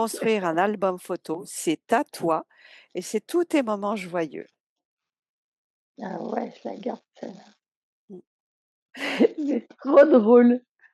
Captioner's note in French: rires